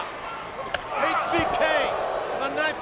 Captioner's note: hand slaps